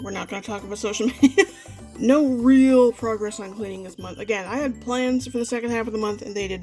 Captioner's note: laughs